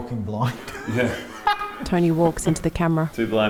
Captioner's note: laughing